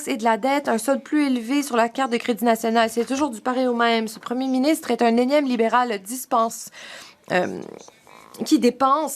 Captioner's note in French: voix de l'interprète